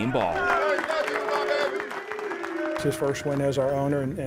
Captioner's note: applause